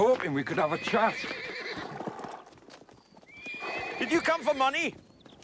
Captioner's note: horses neighing